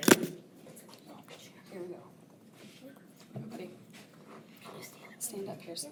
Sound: unmiced voice talking

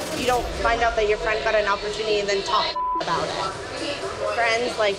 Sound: beep

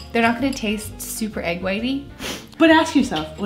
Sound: sniffs

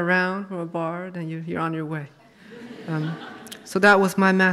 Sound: audience laughs

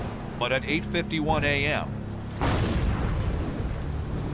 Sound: explosions

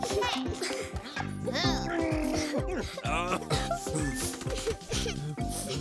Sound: groaning and grunting; sobbing; sniffing

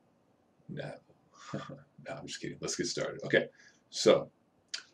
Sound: laughing

